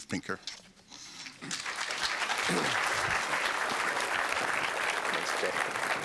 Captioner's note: applause